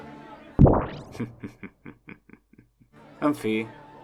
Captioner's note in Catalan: riure malèfic